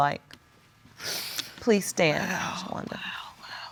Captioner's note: sniffling